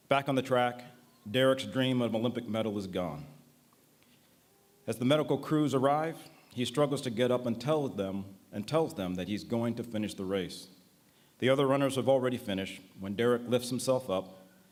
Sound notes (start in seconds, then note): none